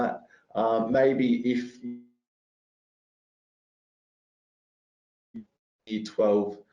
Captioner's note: audio distorts